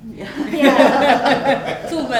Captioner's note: laughter